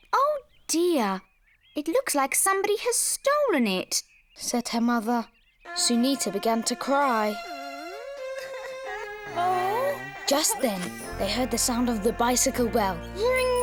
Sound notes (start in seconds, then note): 7.9 Sunita cries; 7.9 sad orchestral music